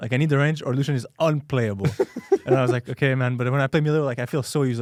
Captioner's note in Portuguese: risos